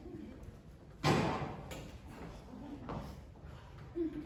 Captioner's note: gunshot